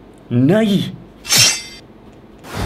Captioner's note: sword slashing